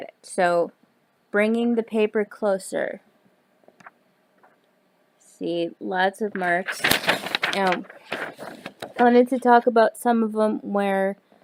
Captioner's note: paper moving noises